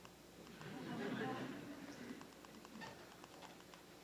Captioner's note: laughter